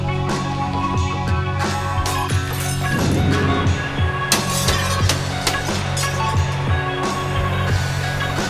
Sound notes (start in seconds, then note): 1.7 windows shattering